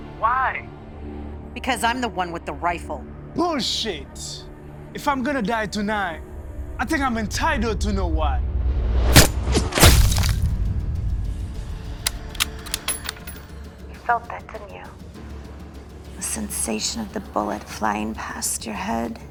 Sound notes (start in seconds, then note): 9.2 gun firing; 12.0 gun cocking